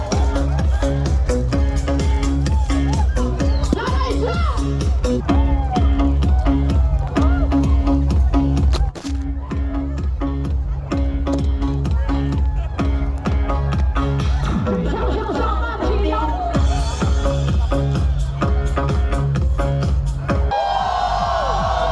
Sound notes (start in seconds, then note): 5.2 cheering